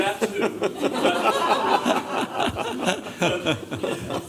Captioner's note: laughter